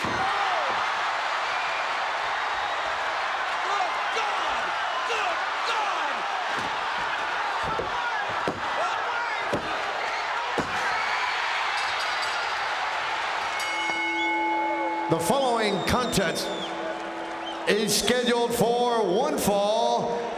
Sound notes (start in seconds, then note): 0.1 chair smacks; 1.7 crowd cheering; 8.2 hand pounding; 11.6 bell dinging; 11.6 crowd cheering